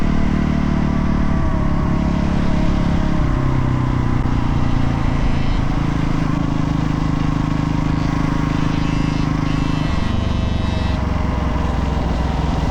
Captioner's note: engine revving